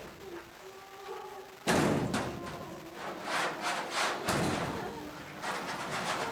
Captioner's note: door banging; woman singing